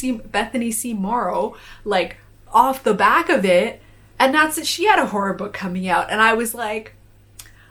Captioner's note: gasp sound